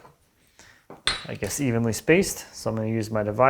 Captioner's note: metal on desk ringing